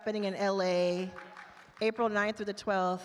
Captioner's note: attendees applaud